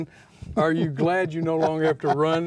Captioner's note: laughs